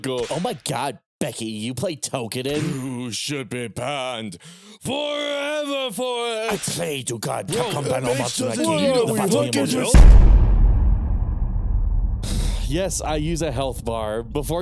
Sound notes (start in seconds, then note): 9.0 several voices; 9.9 dramatic Hit; 12.2 sigh